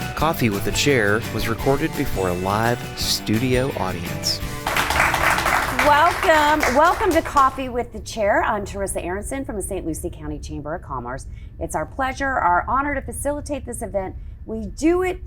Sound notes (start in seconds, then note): 0.0 upbeat music; 4.2 audience applauds